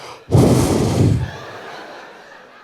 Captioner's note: breathing out noisily